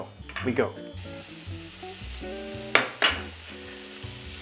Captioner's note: pan sizzling